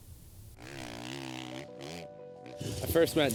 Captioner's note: engine roaring